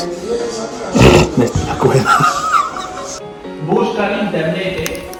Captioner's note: laughs